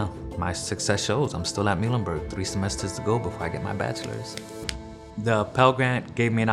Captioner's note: clapping